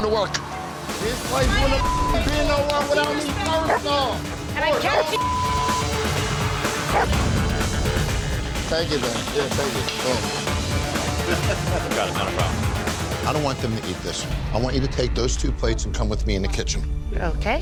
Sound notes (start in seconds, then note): 4.7 overlapping yelling; 6.6 rock music; 6.9 dog barking